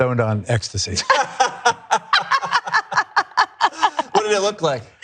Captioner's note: laugh